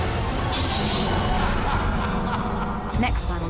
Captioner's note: evil laugh